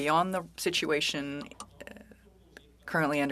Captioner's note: speaking french